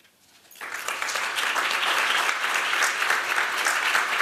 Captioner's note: applause